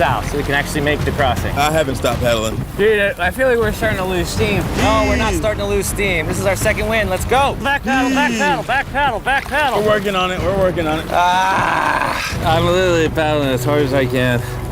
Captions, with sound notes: so we can actually make the crossing. I haven't stopped paddling. Dude, I feel like we're starting to lose steam. -Oh, we're not starting to lose steam. -Heave! This is our second wind. Let's go! -Back paddle, back paddle. -Heave! We're working on it. [groaning] Ah! I'm literally paddling as hard as I can.